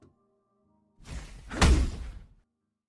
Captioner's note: swoosh, Thud